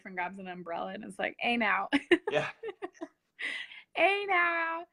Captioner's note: laughs